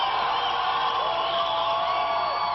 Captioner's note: applause